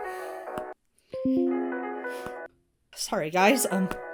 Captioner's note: ringtone plays; notification dings; ringtone plays